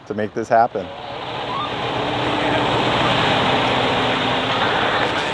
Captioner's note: truck whirring